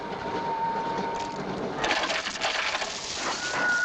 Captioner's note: whistling